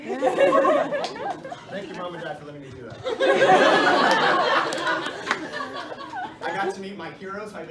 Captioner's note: laughter; laughter